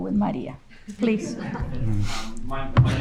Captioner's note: audience chuckling